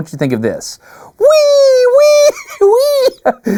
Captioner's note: laughs